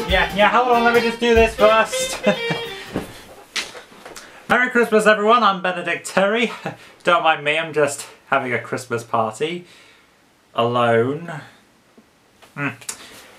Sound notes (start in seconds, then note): 2.0 chuckles